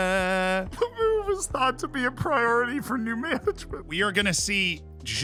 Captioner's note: laughing